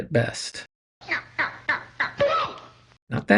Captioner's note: nyuk nyuk nyuk nyuk